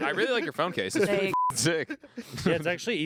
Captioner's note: beep